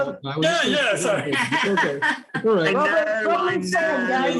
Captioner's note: crowd laughing